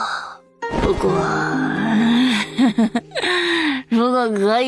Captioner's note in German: lacht